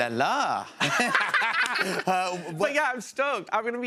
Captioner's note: laughter